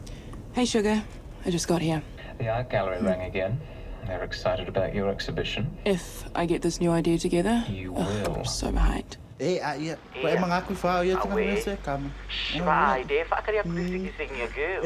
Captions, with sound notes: - Hey, sugar. I just got here. - The art gallery rang again. They're excited about your exhibition. - If I get this new idea together. - You will. - Ugh, I'm so behind. (BOTH SPEAK SAMOAN)